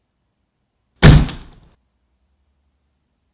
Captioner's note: knock